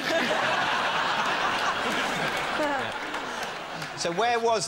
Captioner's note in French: rires